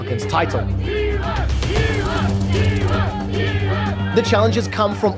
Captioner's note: crowd chanting